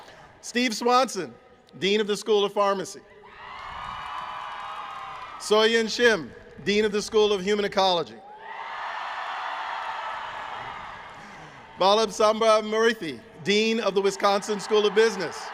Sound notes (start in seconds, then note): 8.2 cheering